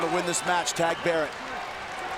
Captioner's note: crowd chatter